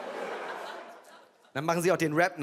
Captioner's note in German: Lachen